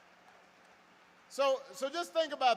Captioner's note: applause